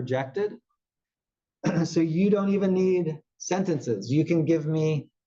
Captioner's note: cough